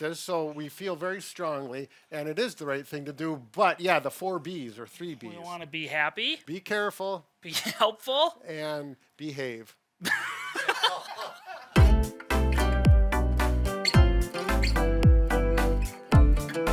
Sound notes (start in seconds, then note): 10.0 all laughing; 11.7 bright upbeat music